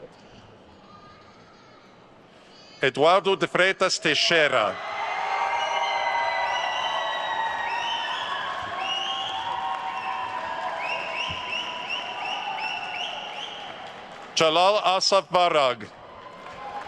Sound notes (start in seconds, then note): 5.0 attendees cheering and applauding; 8.1 attendee whistling; 15.9 attendees cheering and applauding